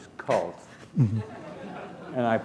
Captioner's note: laughter